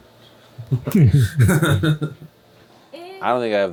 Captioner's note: laughter